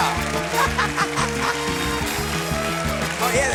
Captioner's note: laughs